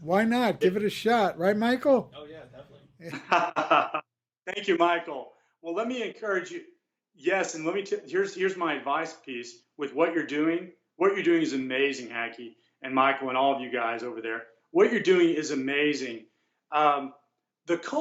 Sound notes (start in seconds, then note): 2.4 laughs